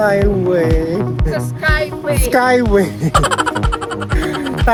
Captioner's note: laughing SFX